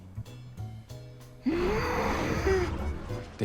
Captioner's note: grunts